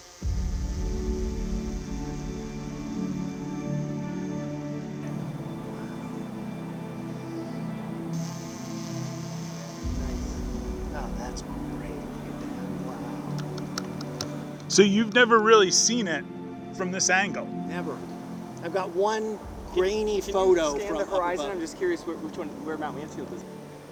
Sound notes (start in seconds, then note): 0.3 enchanting music; 8.2 drone continues buzzing